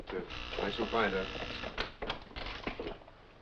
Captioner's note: door buzzing